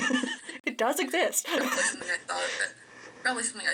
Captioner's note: laughter